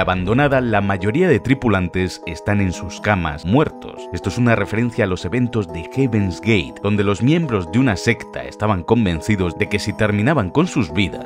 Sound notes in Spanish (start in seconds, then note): none